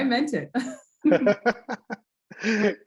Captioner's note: laughter